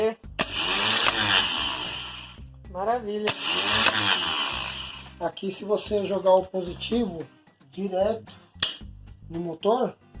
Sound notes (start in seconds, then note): 0.4 motor spins